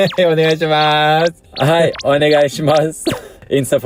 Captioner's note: laugh